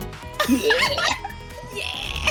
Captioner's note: laughter